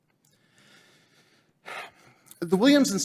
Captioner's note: sighs heavily